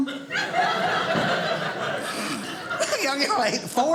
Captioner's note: audience laughing